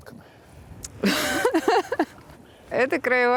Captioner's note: laughs